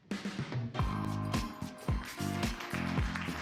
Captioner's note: applause